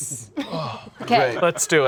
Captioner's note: sighs